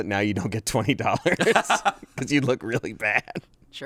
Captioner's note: laugh